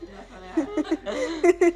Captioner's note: both laughing